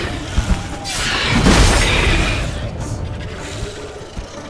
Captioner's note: snarl; loud crackle